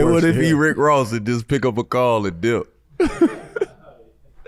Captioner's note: laughs